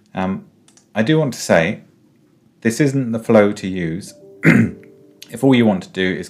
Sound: clears throat

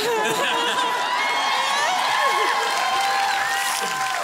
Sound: laughter and cheering

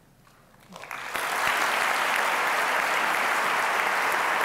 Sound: applause

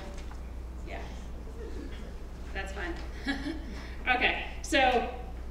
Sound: laugh

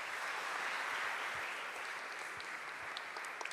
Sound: applause

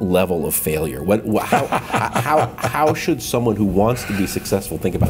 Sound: laughter

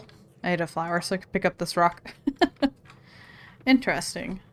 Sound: laughs

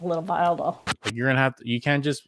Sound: whooshing

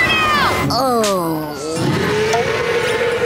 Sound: groaning

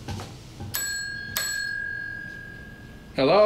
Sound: bell dings

